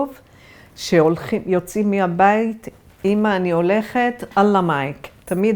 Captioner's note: Arabic